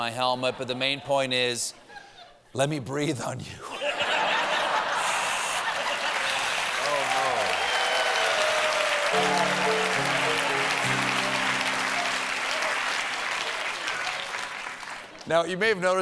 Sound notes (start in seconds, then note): 3.7 laughter; 7.4 cheers and applause; 7.4 piano riff